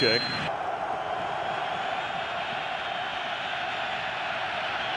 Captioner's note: cheering